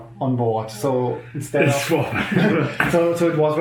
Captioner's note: laughing